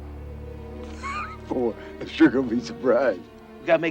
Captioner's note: laughs